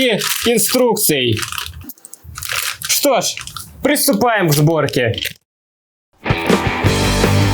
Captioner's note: package crackling